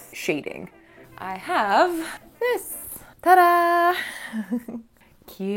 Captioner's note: laughing